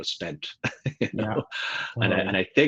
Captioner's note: laughs